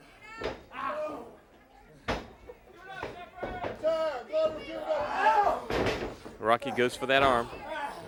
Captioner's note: crowd chatter